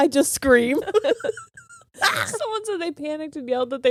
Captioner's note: laughing